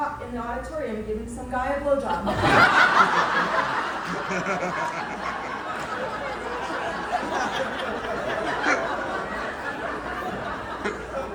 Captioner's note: laughter